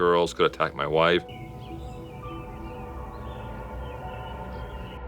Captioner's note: birds chirping